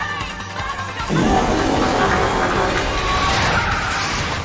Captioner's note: double fart